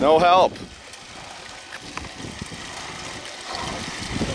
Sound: water running

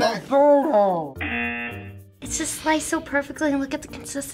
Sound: buzzer

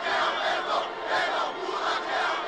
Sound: crowd chanting

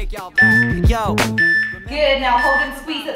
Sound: timer beeping

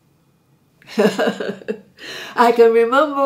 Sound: laughing

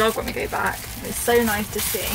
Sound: none

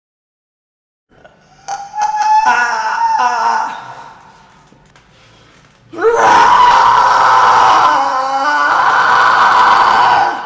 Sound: torture screams and moans

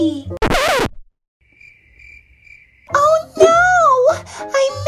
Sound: record scratching; crickets chirping

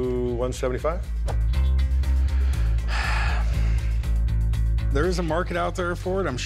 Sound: sighs

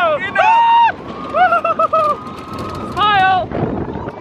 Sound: shouting

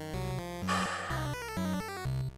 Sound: sighs

